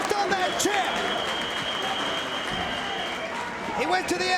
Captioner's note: spectators applauding; whistling